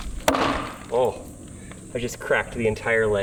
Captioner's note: hammering